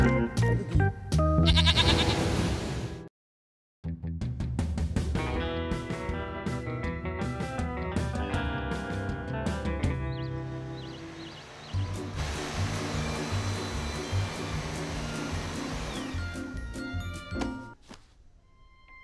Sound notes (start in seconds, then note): 1.4 bleats; 9.8 birds chirping